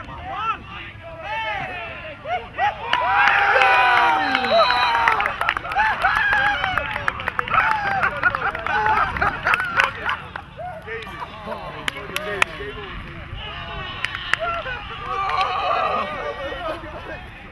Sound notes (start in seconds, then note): 2.7 cheering; 6.2 laughter and applause; 15.0 shouting